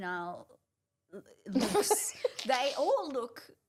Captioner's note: laughing